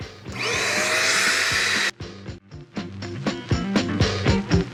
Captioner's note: vacuuming; light funky music